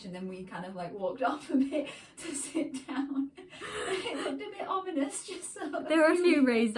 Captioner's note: laughter